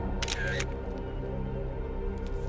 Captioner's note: camera clicking; mysterious music